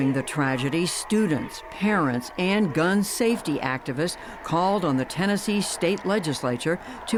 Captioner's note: chanting